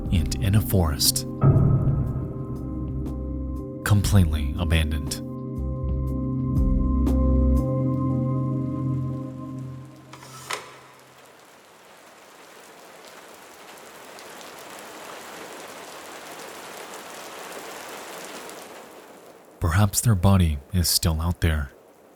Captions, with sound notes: and in a forest, completely abandoned. (mysterious music) (rain pattering) (object scrapes and clacks) (rain pattering) Perhaps their body is still out there,